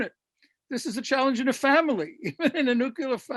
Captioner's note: laughs